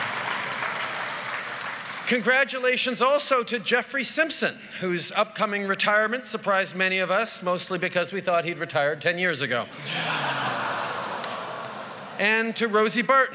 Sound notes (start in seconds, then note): 0.0 whoops & applause; 9.7 laughter